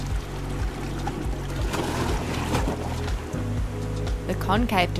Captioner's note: waves crashing